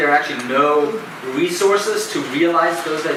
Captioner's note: none